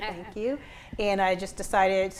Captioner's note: chuckles